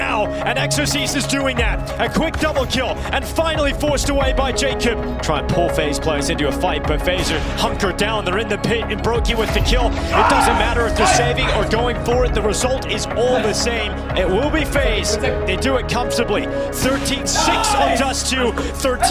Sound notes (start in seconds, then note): 10.0 people cheering